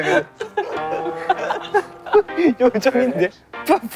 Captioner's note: unable to hold the laughter